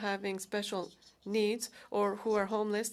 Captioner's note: speaking French